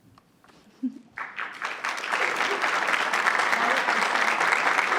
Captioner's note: audience applauds